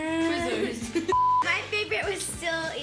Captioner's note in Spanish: Pitido